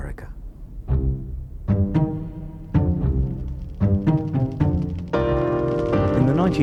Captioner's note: whimsy music; fire crackling